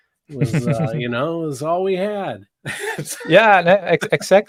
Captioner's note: laughing